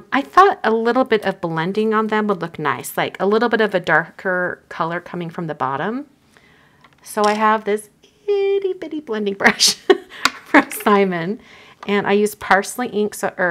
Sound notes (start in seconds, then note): 9.8 chuckles